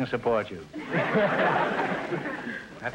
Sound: audience laughter

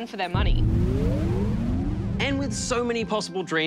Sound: electronic whirring

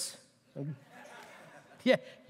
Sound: laughter

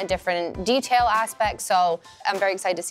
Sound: none

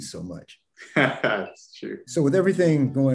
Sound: laughs

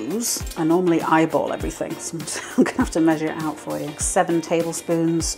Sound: laugh

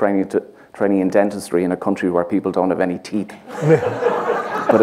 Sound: laughter

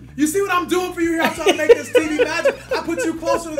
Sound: laugh

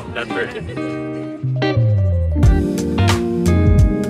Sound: laughs

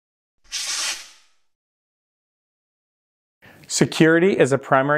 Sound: words scratching

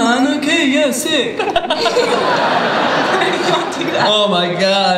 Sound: laughter

